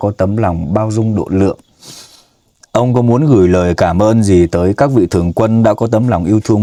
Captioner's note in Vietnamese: khịt mũi